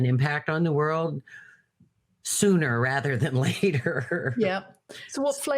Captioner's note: laughs